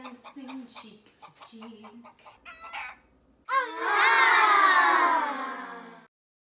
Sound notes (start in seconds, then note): 0.0 chicken clucks; 3.4 children groans